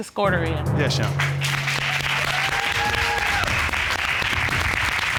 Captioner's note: audience applauds